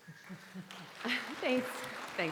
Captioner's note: audience applauding